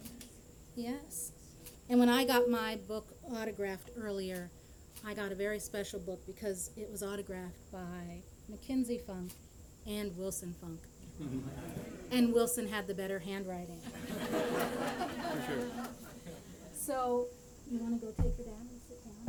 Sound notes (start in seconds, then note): 13.8 laughter